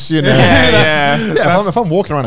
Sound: men laughing

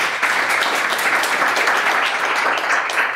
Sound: clapping

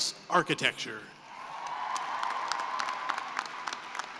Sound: cheering and applause

